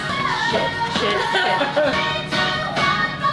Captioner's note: laughter